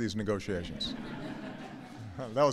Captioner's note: laughter